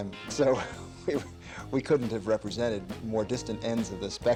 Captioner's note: laughing